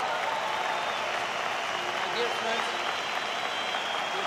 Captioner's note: crowd cheering